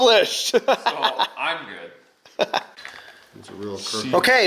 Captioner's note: laughing